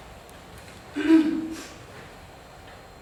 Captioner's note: clears throat